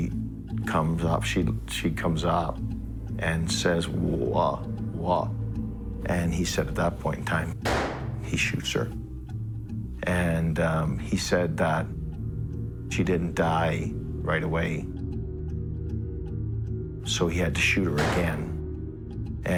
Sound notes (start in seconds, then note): 7.6 gun firing; 18.0 gun firing